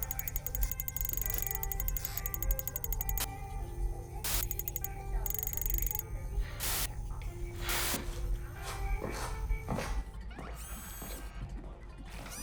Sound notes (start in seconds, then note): 2.7 static; 10.6 lens focusing